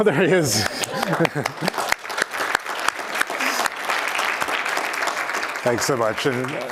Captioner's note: applause